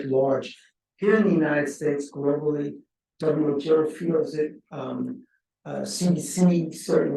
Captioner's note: speaking faintly